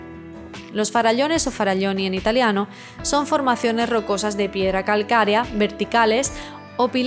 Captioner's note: in Italian